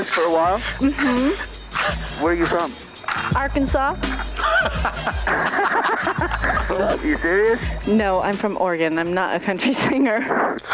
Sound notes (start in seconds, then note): 4.1 all laugh